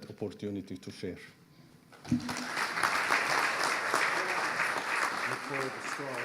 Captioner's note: audience applauding